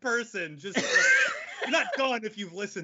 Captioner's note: laughing loudly